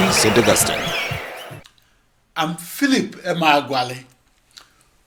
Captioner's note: wild applause and cheering for 22 seconds